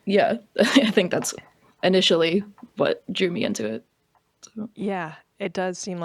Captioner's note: laughs